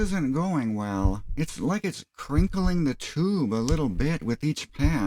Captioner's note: heartbeats